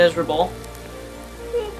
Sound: background music; quiet rainfall sound; KP makes funny noises

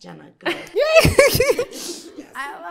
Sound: laughing

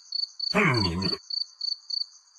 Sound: mumbling and grumbling

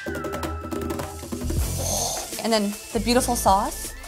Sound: meat sizzles

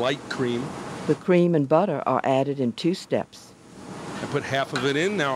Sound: voiceover

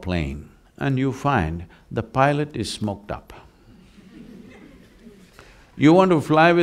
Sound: laughter

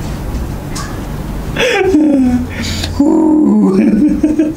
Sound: laughs

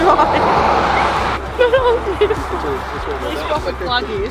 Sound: laughing

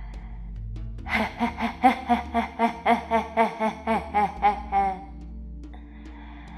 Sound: inhales

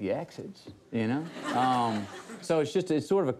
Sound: studio audience laughs

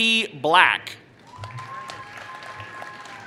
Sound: applause

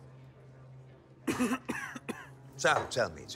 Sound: tulek coughs

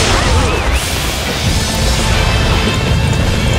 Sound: fire extinguished

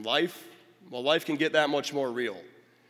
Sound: none

